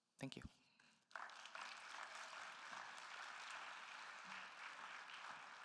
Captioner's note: attendees applauding